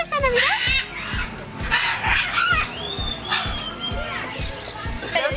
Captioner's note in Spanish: ruidos de aves